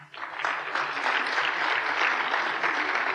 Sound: applause

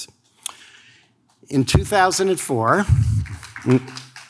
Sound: audience claps

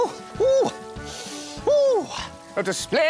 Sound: sniff!

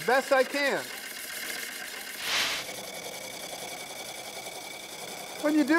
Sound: wood lathe chattering

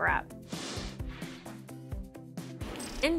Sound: upbeat music; air whooshing

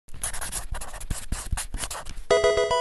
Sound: marker scratching; electronic video game sound

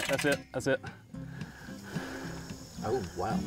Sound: crickets chirping

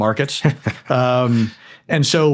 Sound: chuckling

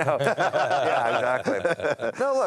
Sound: laughing

